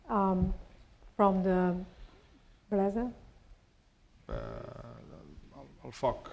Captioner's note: spanish